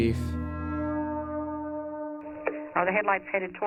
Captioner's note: on phone